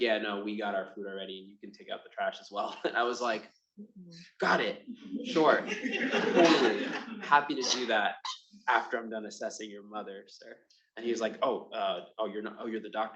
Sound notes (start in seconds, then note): 5.1 attendees laughing